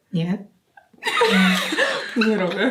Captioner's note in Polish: śmiech